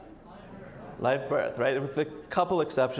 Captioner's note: audience murmurs